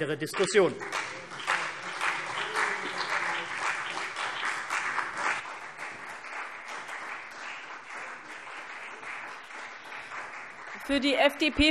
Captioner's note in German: Beifall CDU und BÜNDNIS 90/DIE GRÜNEN